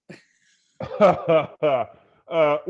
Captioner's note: laughing